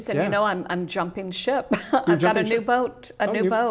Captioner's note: laughs